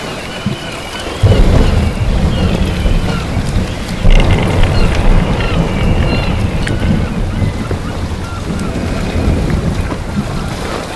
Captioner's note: sound of sea, waves and seagulls